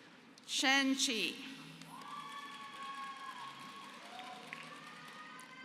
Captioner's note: applause